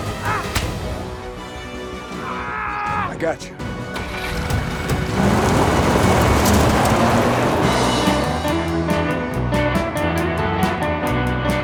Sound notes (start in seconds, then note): 0.2 Chef grunts; 2.2 Tector yells; 5.5 tires skidding; 8.5 energetic music